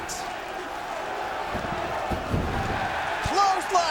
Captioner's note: crowd chattering